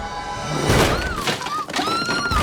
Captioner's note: loud thumping; wood smashing; screaming